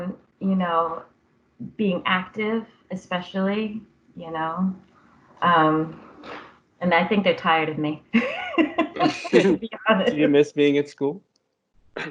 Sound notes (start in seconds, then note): 8.2 laughter